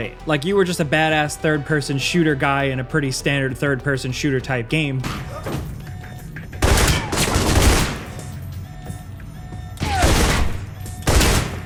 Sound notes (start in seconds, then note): 5.4 gun fires; 5.5 alarm blares